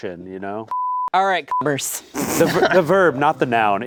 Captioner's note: beep